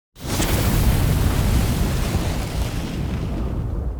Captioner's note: fire roars